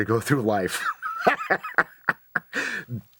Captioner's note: laughs